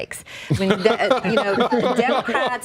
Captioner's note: laughter